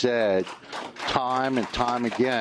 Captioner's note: applause